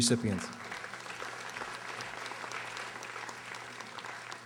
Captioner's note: audience applauding